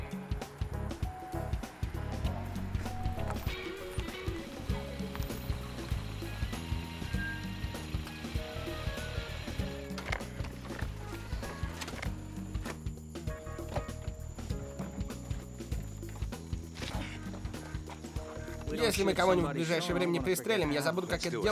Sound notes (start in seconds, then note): 11.9 sighs; 16.6 grunts